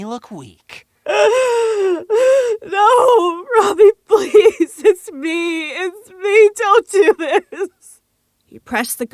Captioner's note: sobbing